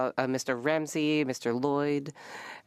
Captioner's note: speaking French